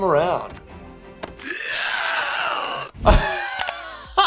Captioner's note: Karl screaming; laughs